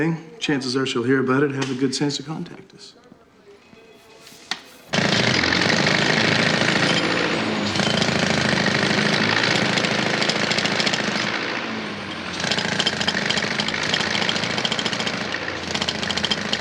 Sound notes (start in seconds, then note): 4.7 jackhammer drilling; 12.2 drilling continues